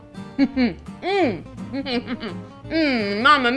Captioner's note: hums with delight